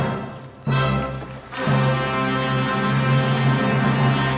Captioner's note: audience claps